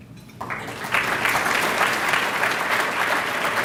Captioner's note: applause